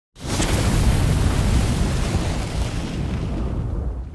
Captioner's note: fire crackles